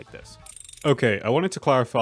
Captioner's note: wind down SFX